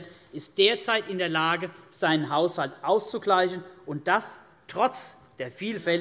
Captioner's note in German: none